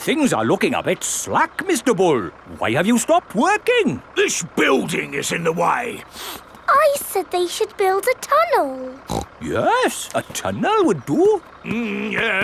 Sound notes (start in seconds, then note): 6.0 sniffs; 8.9 snorts